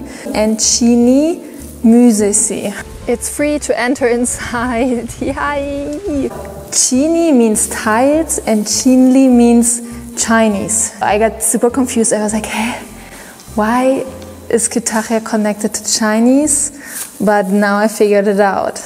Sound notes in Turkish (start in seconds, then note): 9.5 chinese